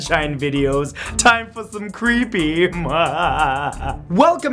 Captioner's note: evil laugh